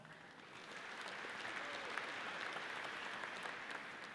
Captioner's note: audience applauds